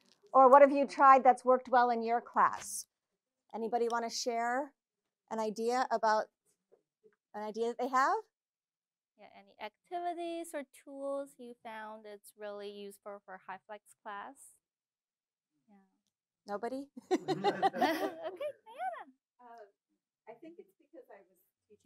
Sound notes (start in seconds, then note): 17.0 laughter